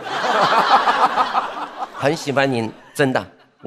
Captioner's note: haha